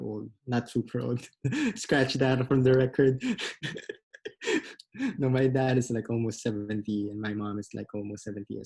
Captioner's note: laughs